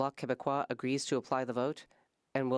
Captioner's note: speaking French